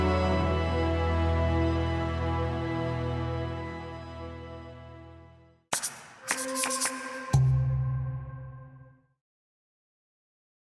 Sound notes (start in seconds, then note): 5.7 marker whooshing; 5.8 dramatic music